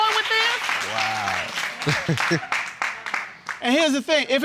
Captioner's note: laughs ashamedly